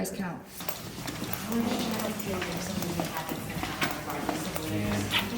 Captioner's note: chatter